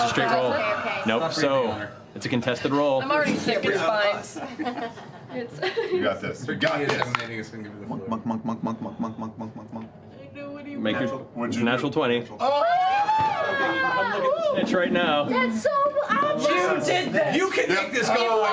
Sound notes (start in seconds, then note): 6.6 chanting; 9.9 glumly; 13.5 yelling